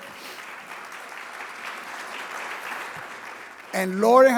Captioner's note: audience applauding